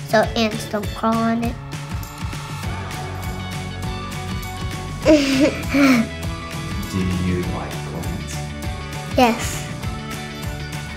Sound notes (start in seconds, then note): 5.0 both laughs